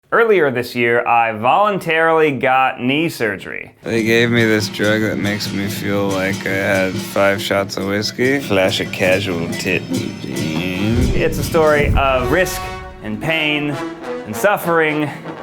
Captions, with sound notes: - Earlier this year I voluntarily got knee surgery. They gave me this drug that makes me feel like I had five shots of whiskey. Flash a casual tit. (groans) It's a story of risk and pain and suffering,